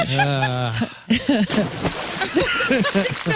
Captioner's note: laughing